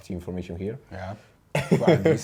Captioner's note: laughs